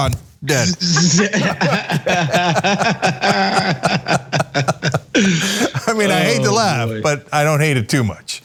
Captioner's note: laugh